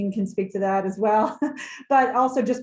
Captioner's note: laughs